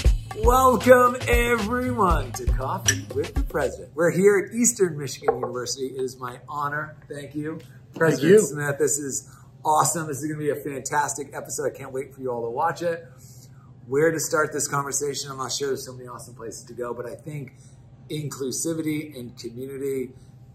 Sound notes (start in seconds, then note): 2.8 cups clinking